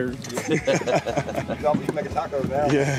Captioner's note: men laughing